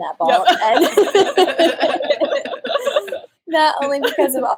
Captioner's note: laughter